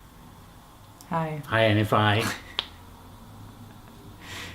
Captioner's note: chuckles